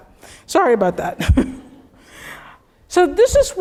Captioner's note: laugh